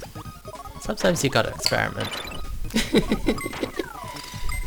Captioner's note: laughs